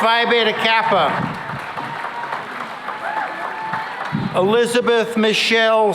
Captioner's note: cheering and applause